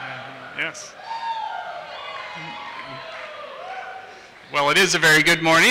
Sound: audience cheers

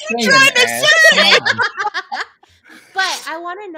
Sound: all laughing

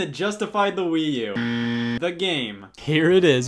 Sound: buzzer sound effect

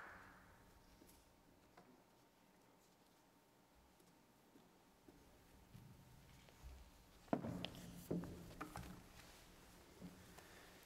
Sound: applause

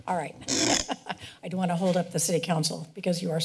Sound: laughs

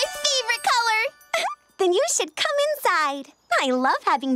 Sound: giggles

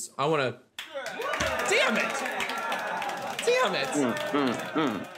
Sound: victorious dinging, enthusiastic grunting

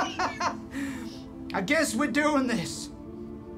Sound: laughs

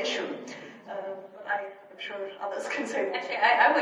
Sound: laughs

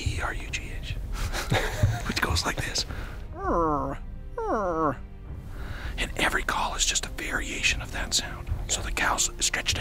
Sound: eerugh, eerugh

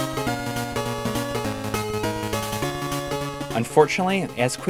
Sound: game audio

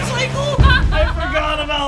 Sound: laughs

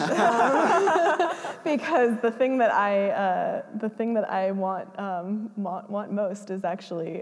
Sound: laughs

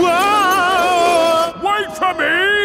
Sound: yelling

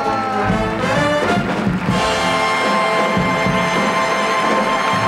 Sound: audience applauding

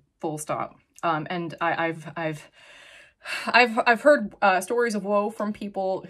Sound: sighs

